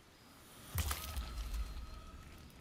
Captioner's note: squelchy bite